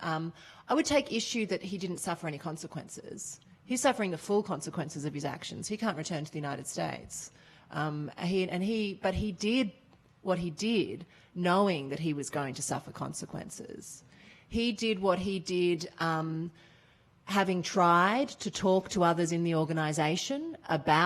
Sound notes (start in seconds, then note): none